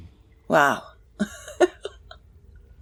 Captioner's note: chuckles